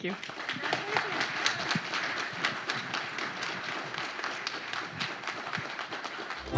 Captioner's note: applause